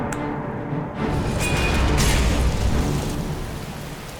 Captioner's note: kaCZHING! KLUNK!